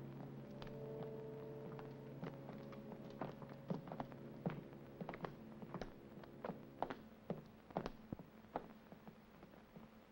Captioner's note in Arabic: خطوات تقترب